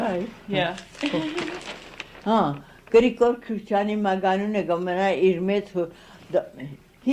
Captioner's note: laughs